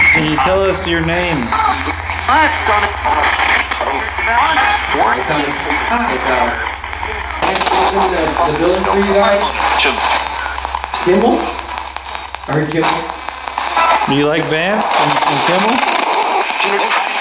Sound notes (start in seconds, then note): 3.6 Static